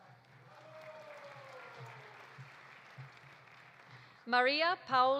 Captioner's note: audience applauding; audience cheering